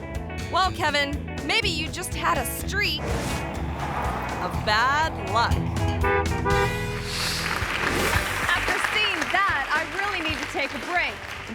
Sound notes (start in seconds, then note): 3.5 horn honks; 6.5 audience clapping; 7.0 screen whooshes